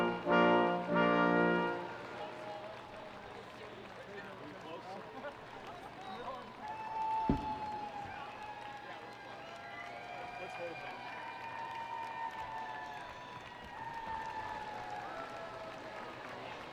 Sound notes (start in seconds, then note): 6.7 audience applauding; 11.5 students cheering and screaming